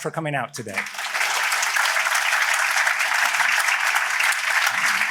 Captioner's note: applause